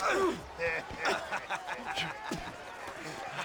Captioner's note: laughs